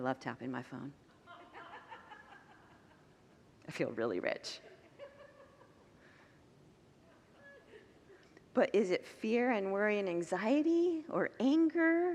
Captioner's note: congregants laugh